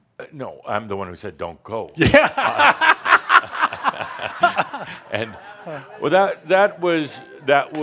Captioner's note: laughs heartily and audience laughter